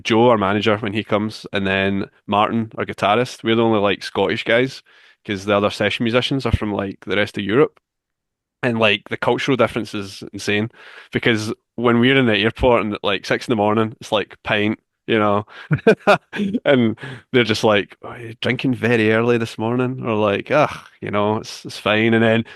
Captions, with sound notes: Joe, our manager, when he comes, and then Martin, our guitarist. We're the only Scottish guys because the other session musicians are from the rest of Europe. And the cultural difference is insane because when we're in the airport at 6:00 in the morning, it's like, "Pint." [laughs] And they're just like, "Oh, you're drinking very early this morning." We're like, "Ugh, it's fine." And then